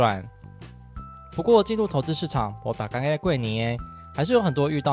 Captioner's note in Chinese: 台語